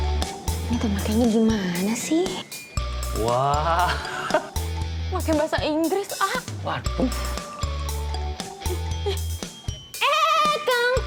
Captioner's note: non-english speech